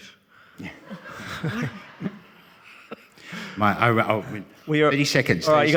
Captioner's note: audience laughing